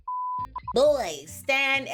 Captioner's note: beep